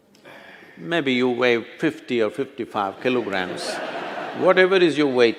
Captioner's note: laughter